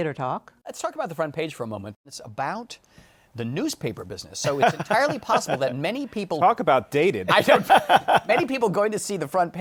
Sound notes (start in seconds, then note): 7.3 laughs